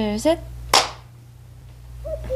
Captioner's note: clap